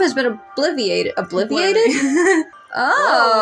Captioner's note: laugh